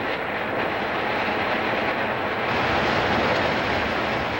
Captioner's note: Χειροκρότημα